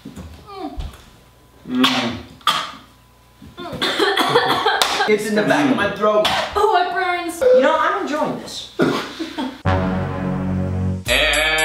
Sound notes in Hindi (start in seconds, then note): 1.7 खाँसी; 9.6 अशुभ संगीत; 10.1 हंसते हुए